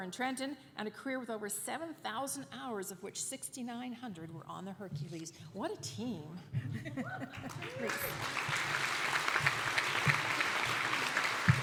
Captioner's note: applause